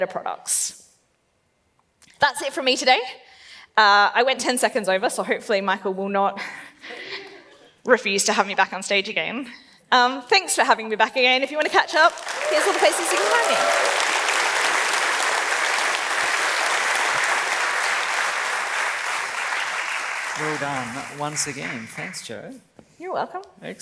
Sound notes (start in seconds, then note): 7.1 laughs; 11.7 claps and cheers